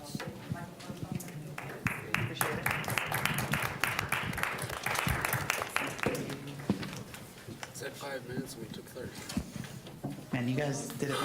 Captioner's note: applause